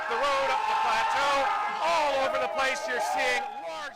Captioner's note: cheers and Applause